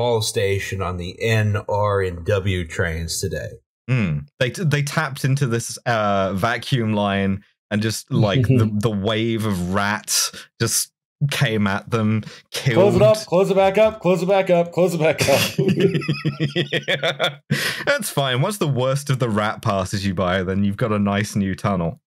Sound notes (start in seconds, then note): 15.2 laughter